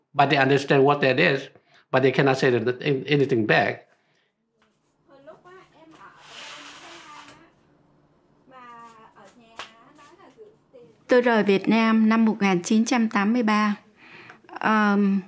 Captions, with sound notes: but they understand what that is, but they cannot say anything back. (door sliding)